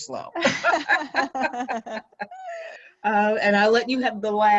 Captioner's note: laughing